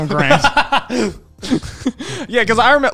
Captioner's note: laughs